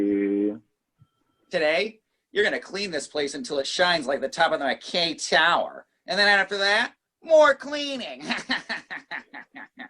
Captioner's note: laughs